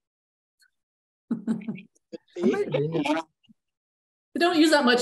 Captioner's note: laughs